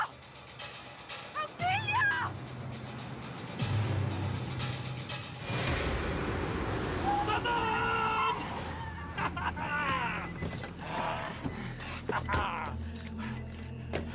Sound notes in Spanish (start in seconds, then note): 7.0 risotada; 7.5 chirrido de llantas